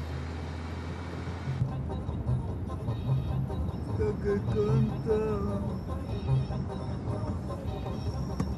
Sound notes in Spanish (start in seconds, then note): 3.8 Tararea; 6.5 Ríe